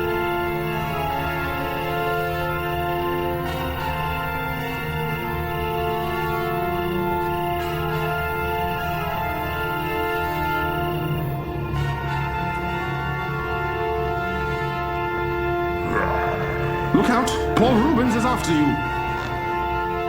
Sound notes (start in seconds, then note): 3.4 intense music; 15.8 zombie growling